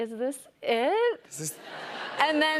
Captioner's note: laughter